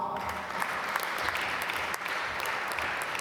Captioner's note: applause